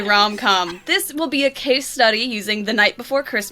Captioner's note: laughs